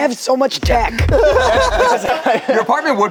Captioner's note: group laughs